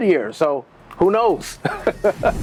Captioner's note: laughs; upbeat music